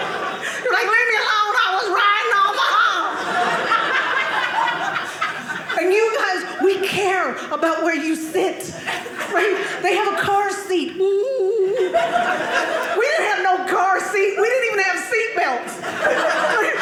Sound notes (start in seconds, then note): 2.3 audience laughing